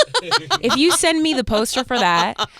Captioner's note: Fortune laughing